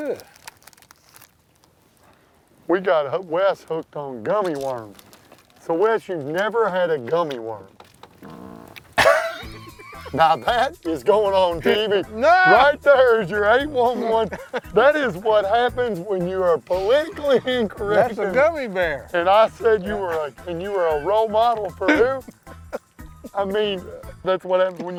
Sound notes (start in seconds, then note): 8.1 farts; 9.0 laughter